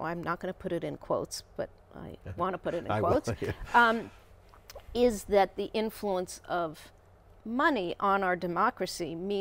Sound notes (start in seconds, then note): 2.2 laughing